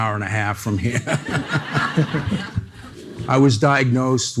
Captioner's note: audience laughing